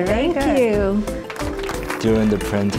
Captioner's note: applause